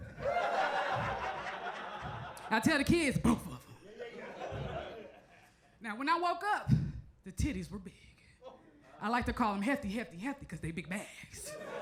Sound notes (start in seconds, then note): 0.0 crowd laughs; 11.4 crowd laughs